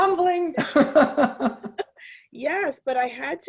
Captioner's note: chuckles